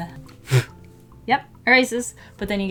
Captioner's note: blows eraser shavings